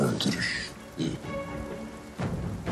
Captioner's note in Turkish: Gülüyor